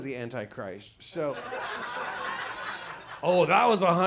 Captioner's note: audience laughs